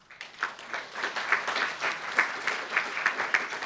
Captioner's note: applauds